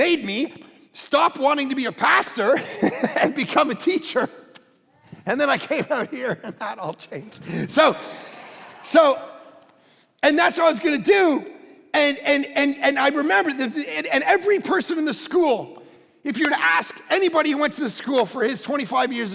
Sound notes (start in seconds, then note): 5.2 congregation laughing